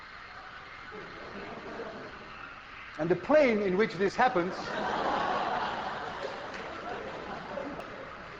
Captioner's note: class laughs